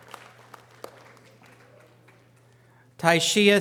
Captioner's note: audience applause